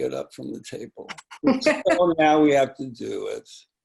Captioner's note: laughing